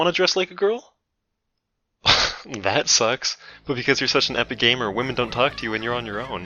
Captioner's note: scoffs